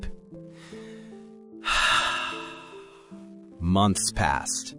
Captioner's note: sigh